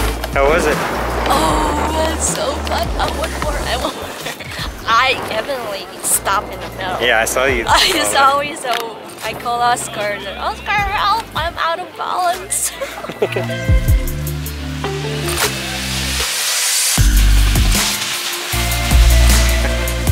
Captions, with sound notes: How was it? - Oh, it's so fun, I want more, I want more. I evidently stopped in the middle. So I called Oscar, Oscar help I'm out of bounds! (laughing together) (pumped up electronic music continues)